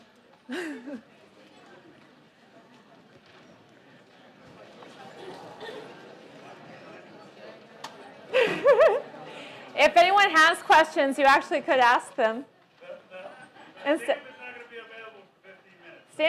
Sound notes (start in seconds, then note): 0.5 laugh; 8.2 laugh